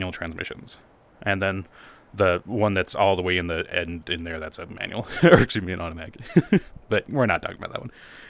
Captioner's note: laugh